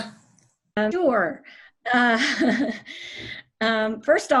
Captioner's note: chuckles